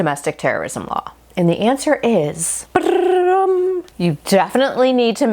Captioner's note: mouth imitating drum roll